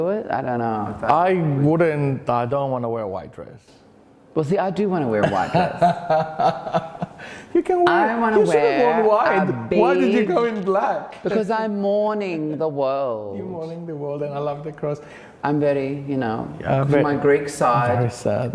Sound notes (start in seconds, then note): 5.2 laughing